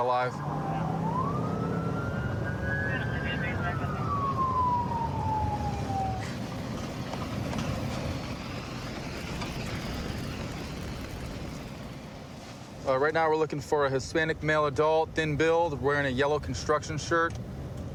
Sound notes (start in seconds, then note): 0.1 police sirens blaring; 2.8 dispatch chatter